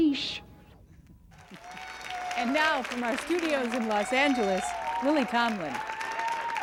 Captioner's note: audience applause and hoots; applause continues